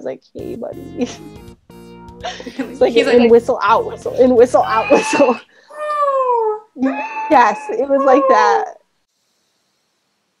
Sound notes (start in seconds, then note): 2.2 laughs; 6.4 imitates sound